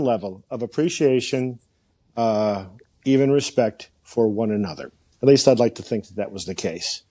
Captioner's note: none